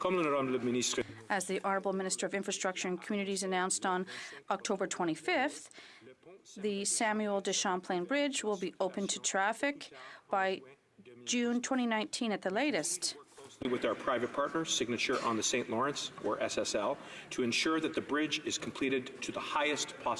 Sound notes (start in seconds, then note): 4.7 speaking French